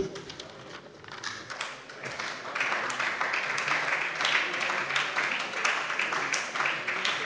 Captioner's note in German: Beifall bei der SPD